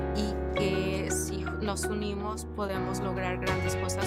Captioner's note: speaking Spanish